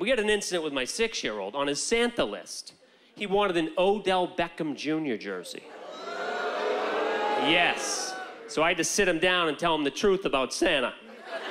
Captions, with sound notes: We had an incident with my six-year-old on his Santa list. He wanted an Odell Beckham Jr. jersey. (audience groaning) Yes. So, I had to sit him down and tell him the truth about Santa.